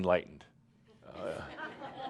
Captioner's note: some laughter